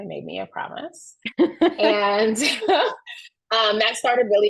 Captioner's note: chuckles